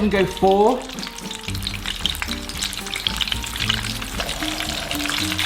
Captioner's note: oil sizzling loudly